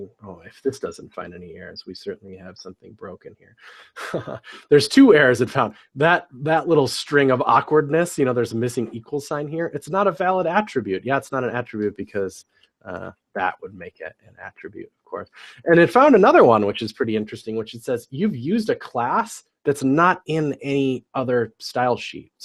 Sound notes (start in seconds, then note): 3.6 laugh